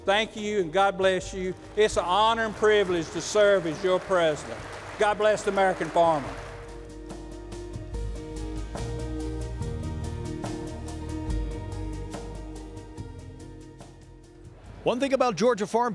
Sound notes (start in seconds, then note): 7.7 clapping; 9.0 soft Music Playing